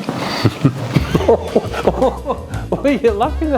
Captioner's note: laughter